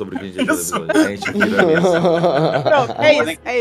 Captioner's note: laughs